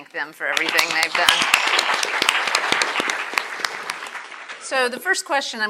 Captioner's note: attendees applauding